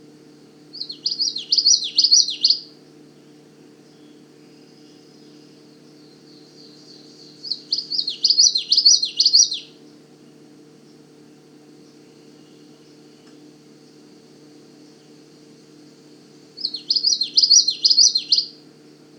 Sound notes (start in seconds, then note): 0.7 Common Yellowthroat singing; 3.8 short pause; 7.2 Common Yellowthroat singing; 10.9 short pause; 16.4 Common Yellowthroat singing